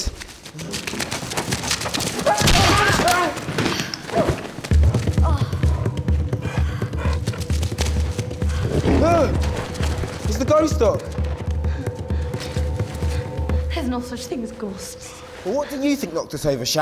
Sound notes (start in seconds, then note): 2.3 Shannon shrieks; 4.8 Shannon sighs; 8.4 wolf snarls